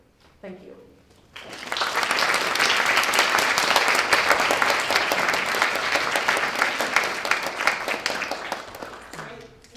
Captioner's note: applause